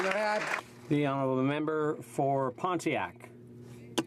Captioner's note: some Applause